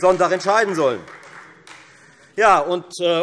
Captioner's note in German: Beifall Freie Demokraten